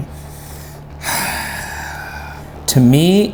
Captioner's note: deep droning music; sighing